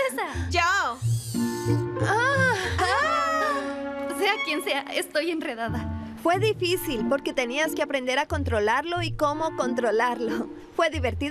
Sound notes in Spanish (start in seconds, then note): 3.2 gritos y suspiros